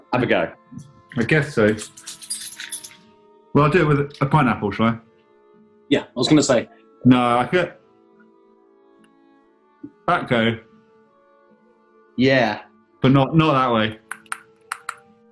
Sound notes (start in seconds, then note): 1.6 keychain jangles; 14.0 taps against teeth